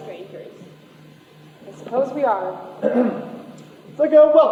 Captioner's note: Canadian Official clears throat